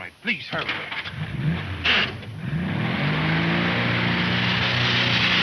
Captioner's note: car engine revving